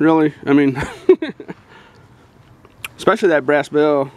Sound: laughing

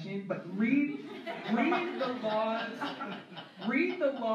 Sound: laughter

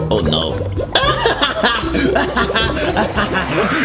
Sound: laughs

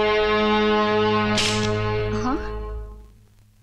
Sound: switch clicks

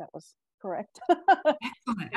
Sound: laughs

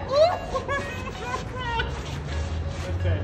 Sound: crying

